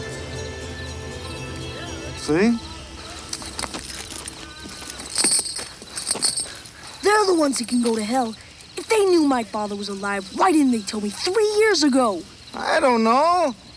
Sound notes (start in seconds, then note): 3.7 chain rattles